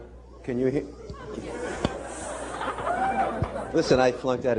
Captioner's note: laughter